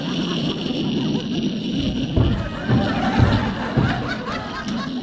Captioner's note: laughing; fireworks exploding